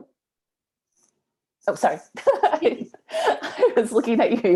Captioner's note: laughs